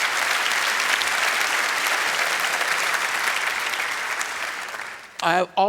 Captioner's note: applause